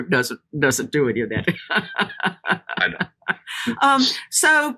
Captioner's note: laughing